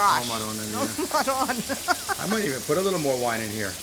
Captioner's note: laughing